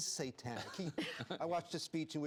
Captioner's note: laughter